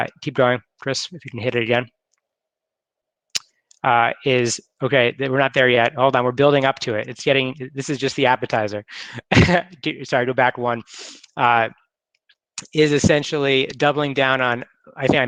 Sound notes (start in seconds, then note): 3.6 clicking; 8.9 chuckles